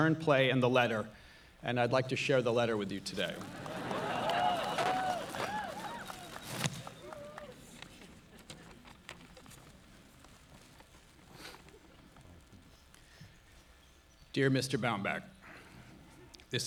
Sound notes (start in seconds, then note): 2.8 audience cheering; 2.8 audience laughing